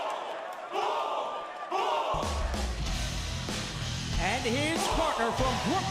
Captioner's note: fans chanting